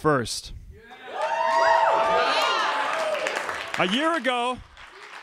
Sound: crowd cheering

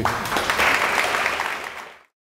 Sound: audience applause

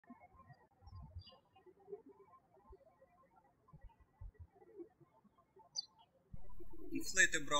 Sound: birds chirping

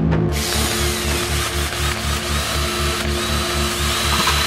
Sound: drill whirring

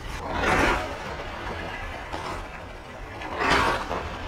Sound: skates swooshing

